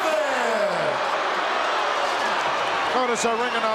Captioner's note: audience booing